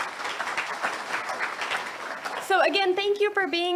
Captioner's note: audience applauds